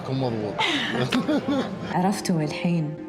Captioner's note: laughing